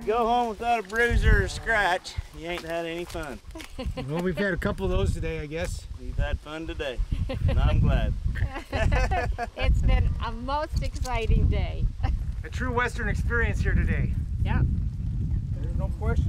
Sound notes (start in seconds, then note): 3.4 laughs; 8.4 laughs